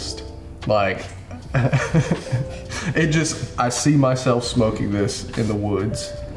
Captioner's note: laughs